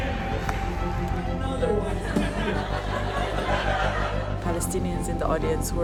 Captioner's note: laughing